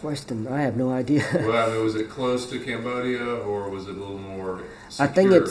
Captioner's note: laughs